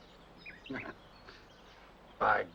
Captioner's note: chuckles